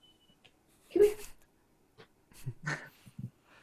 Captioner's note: laughs